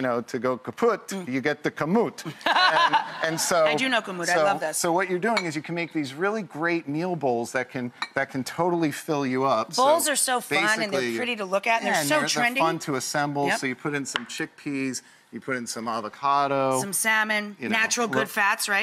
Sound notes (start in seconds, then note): 2.3 Rachael and crowd laugh